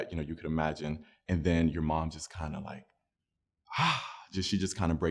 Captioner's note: sighs